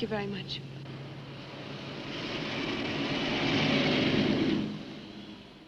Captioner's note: car engine hums